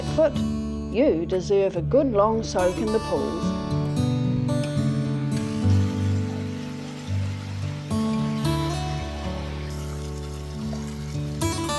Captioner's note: water splashing